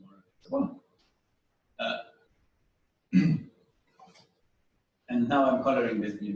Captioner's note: pause